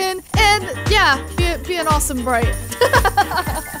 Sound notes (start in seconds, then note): 2.7 laughing